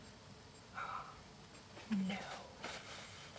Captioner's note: gasps